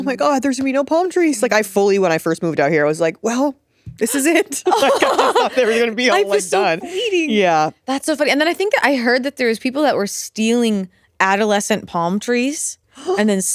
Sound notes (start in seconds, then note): 4.1 all chuckling